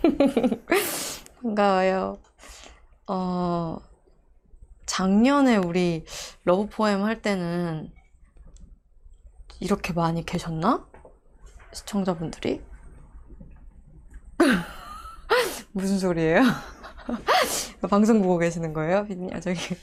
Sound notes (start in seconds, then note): 16.4 laughing